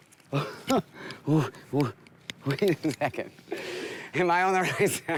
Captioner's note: laughs